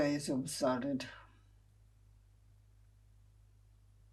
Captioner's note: pauses 11 seconds